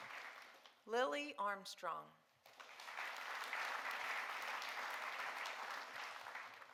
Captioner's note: audience applauding